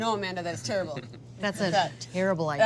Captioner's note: laughs